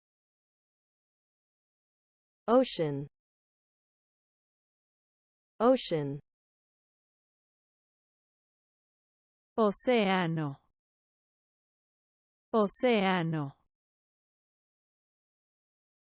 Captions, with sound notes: Ocean Ocean [Spanish] Ocean [Spanish] Ocean